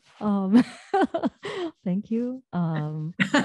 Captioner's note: laughing